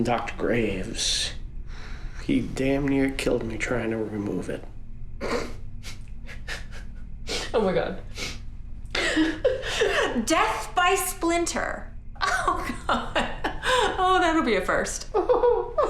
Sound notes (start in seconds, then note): 6.2 laughs; 9.4 laughs; 15.2 Scott laughs mockingly